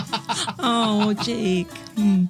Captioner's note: laughing